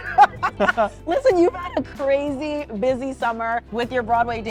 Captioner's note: laughs